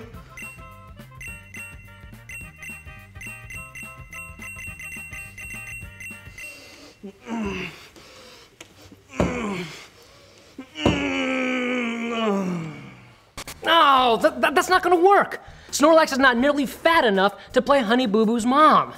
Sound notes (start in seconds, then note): 0.2 beeping; 3.4 deep inhale; 6.4 grunting; 9.1 fierce grunting; 14.1 groans